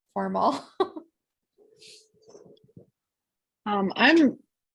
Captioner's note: laughter